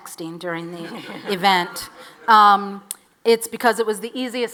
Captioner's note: audience laughs